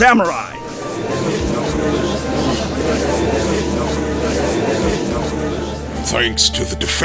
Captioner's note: gallery chattering